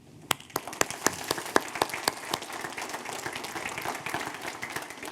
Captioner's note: audience applauding